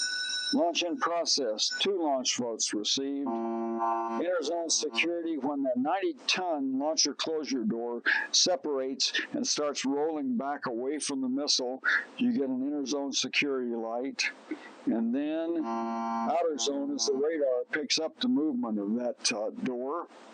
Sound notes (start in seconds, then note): 3.2 alarm blaring; 15.5 alarm blaring